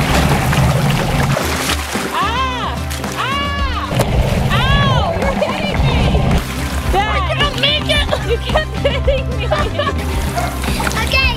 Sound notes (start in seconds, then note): 2.4 yells